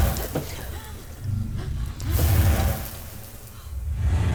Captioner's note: dramatic music; gasping; dramatic music